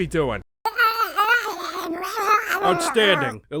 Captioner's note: garbled baby sounds